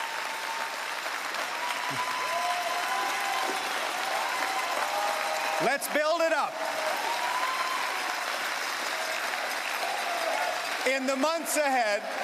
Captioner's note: cheering and Applause